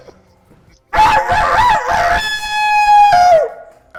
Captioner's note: crowing sounds